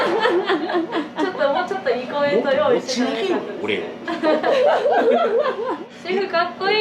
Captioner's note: laughs